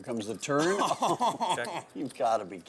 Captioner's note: laughs